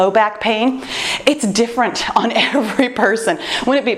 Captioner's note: laughs